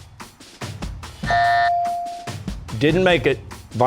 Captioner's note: buzzer, ringer dings